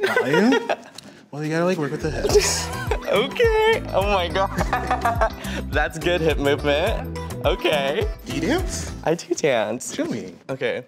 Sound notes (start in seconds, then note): 4.4 laughs